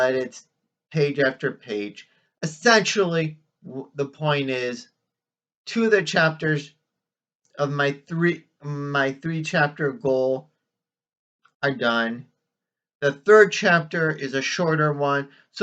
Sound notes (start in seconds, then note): none